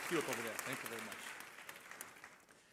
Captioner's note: applause